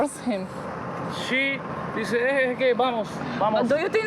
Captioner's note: spanish